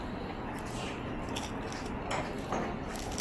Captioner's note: crunch